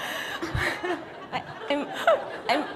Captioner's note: laughter